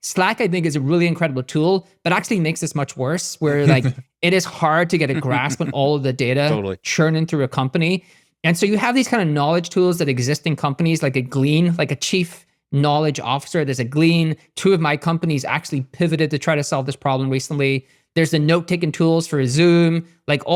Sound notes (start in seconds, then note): 3.4 chuckling; 5.0 laughing